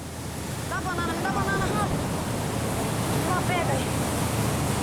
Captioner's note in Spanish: <i>habla en portugués</i>